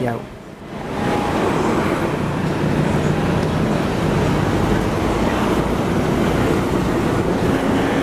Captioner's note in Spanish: sonido de ambiente y del bus andando